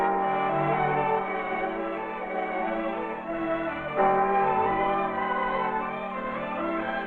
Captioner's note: bell